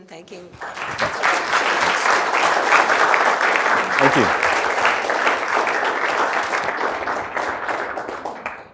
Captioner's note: applause